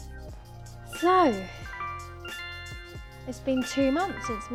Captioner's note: notification sound